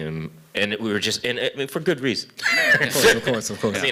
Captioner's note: laughter